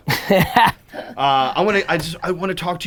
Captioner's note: chuckling